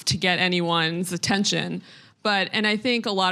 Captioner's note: none